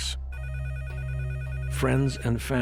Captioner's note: phone ringing